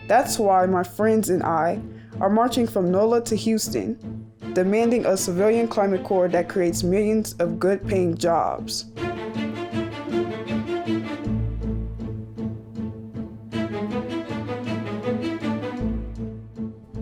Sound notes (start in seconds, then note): none